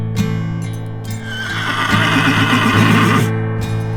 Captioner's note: horse neighs in alarm